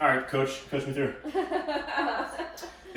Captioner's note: laughing